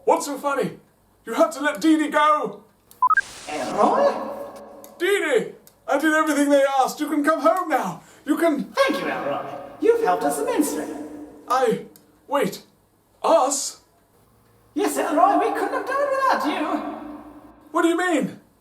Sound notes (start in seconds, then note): 3.0 beeping